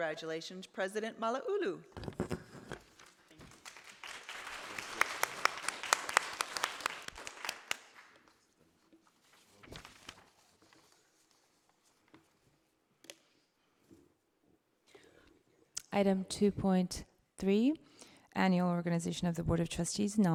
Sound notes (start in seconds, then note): 5.8 audience applauding